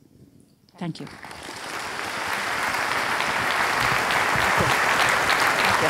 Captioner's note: audience applauds